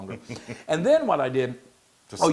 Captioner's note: laugh